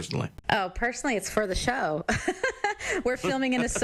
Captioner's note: laughs